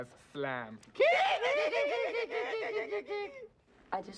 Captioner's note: make monkey noises